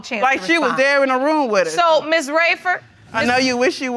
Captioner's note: audience laughing